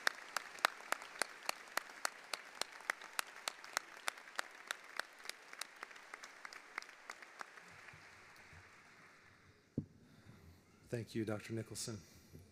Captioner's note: applause